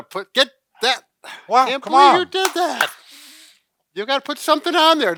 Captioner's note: clapping